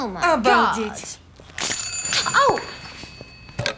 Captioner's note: telephone rings